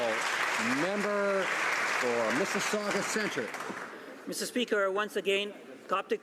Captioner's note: some Applause